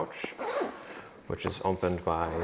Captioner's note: zipper buzzing